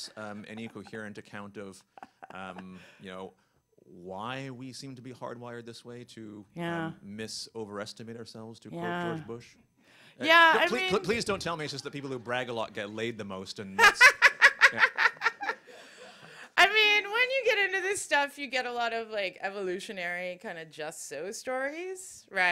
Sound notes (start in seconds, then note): 13.8 laughter